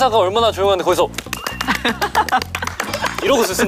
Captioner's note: clap!